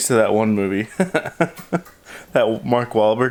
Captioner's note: laughing